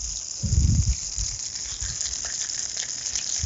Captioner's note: oil hissing